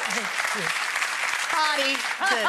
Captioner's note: audience applauds